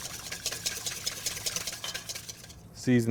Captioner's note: whisking sounds